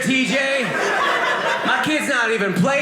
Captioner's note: audience laughing